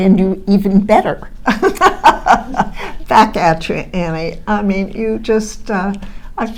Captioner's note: laughs